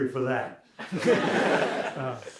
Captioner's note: laughter